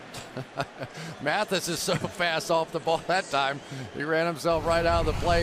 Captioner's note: laughs